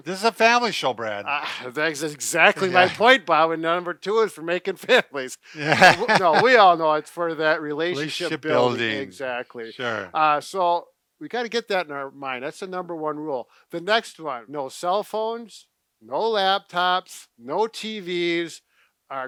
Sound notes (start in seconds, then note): 5.6 laughs